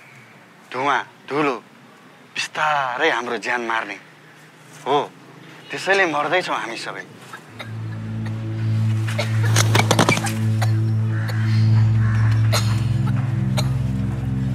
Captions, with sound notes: Toxic smokes and dust which will kill us slowly. And yeah we are dying from it. (Cough)